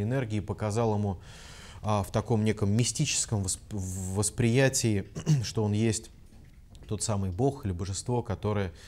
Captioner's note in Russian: откашлялся